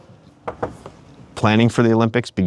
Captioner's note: hand knocking